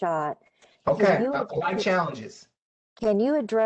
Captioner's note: professor speaking